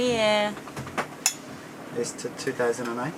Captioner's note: glass clinks